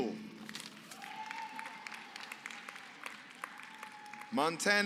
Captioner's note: applause